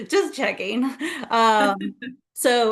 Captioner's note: chuckles